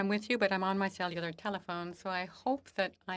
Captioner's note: speaking French